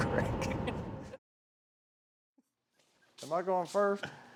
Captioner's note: both chuckling